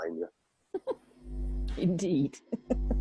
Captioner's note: laughs